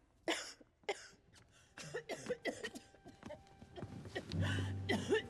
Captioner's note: coughing